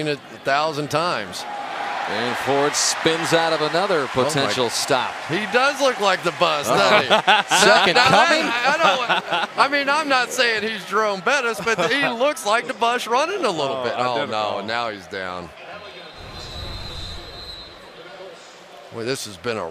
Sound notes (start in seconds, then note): 9.0 laughter; 16.1 pa announcement